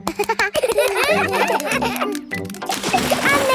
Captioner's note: children laugh